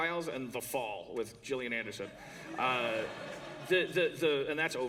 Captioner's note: laughter